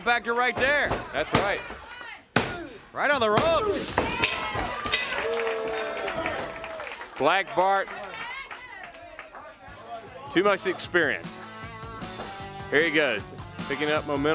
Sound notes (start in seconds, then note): 0.8 crowd chatter; 4.0 crowd cheering; 4.3 bell rings